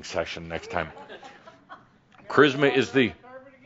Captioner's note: a few chuckles